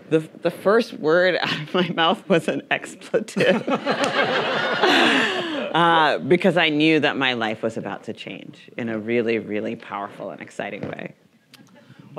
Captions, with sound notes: the first word out of my mouth was an expletive-- (audience laughing) Because I knew that my life was about to change in a really, really powerful and exciting way.